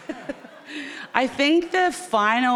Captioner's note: chuckles; audience laughing